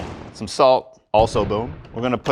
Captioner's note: boom